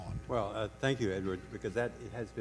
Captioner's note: voiceover